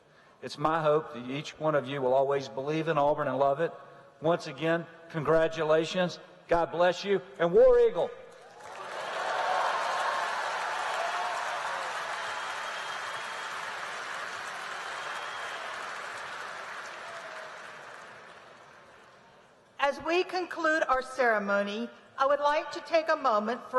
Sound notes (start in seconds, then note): 8.4 applause